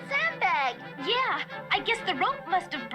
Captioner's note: TV is playing